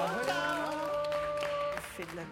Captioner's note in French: applaudissements